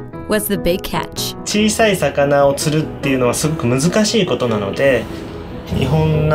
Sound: speaking in foreign language

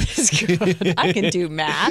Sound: laughter

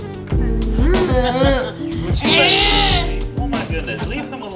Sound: grunting

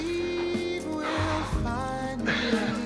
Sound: exhales sharply; laughing

